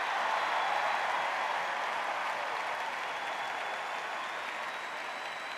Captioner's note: cheers and applause